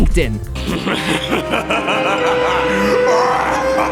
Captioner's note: laughing